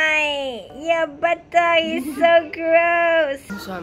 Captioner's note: laughs